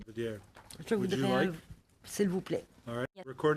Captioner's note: speaking French